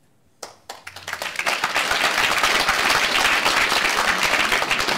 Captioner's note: applause